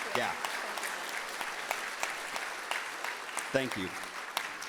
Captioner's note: audience applauding